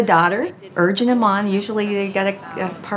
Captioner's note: voiceover